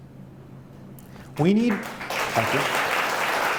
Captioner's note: applause